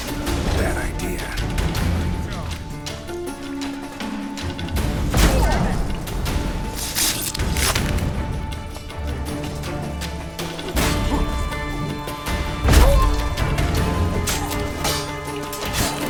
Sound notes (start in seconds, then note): 5.2 thunderous boom; 6.5 groan; 12.7 thunderous boom; 14.0 groan